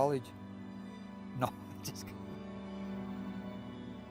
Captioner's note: laughs